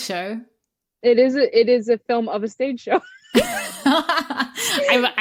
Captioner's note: laughter